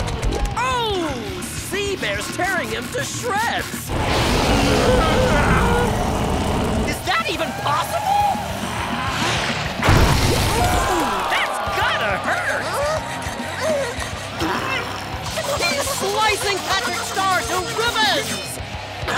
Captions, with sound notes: Oh. Sea bear's tearing him to shreds. [roaring] Is that even possible? Ooh, that's gotta hurt. [groaning] He's slicing Patrick Star to ribbons!